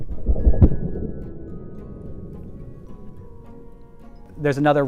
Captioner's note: slow explosion